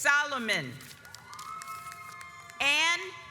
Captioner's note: audience applauds